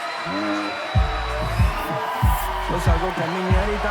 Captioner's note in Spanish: Vítores